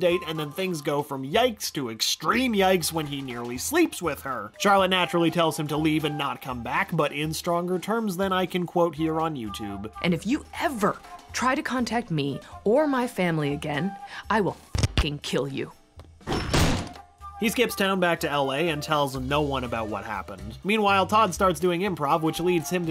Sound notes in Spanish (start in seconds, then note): 14.9 rascando el registro; 16.2 portazo